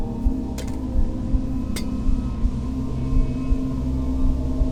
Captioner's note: metal clinking